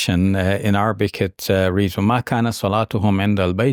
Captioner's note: speaking Arabic